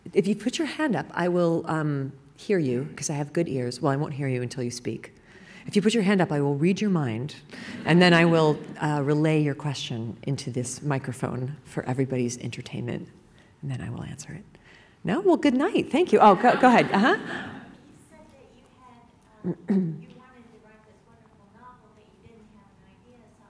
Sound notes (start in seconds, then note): 16.2 laughing